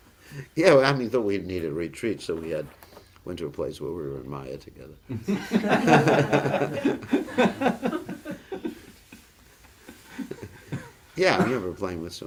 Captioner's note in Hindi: हँसी